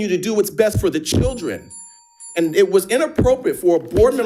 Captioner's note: bell dinging